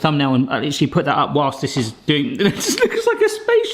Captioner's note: laughs